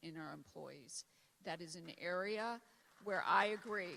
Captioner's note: applause